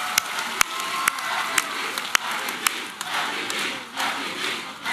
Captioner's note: crwod chanting "mpp"